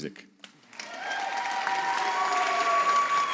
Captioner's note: audience applauds